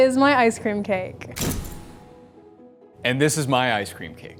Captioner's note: door closes